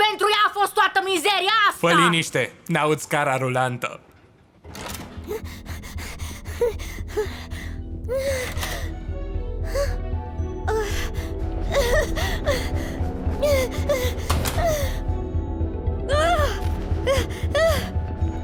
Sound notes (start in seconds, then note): 5.2 panting; 6.6 tense music plays; 10.6 gasps, whimpers; 10.6 whimpering frantically; 16.1 exclaims angrily; 17.0 panting